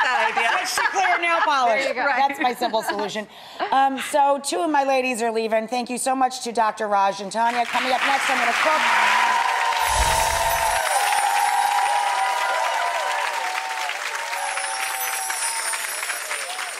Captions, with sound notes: Stick to clear nail polish. There ya go. That's my simple solution. So two of my ladies are leaving, thank you so much to Dr. Raj and Taniya. Coming up next I'm gonna cook. (audience applauding) (bright chimes tinkling)